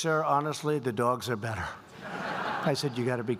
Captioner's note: laughter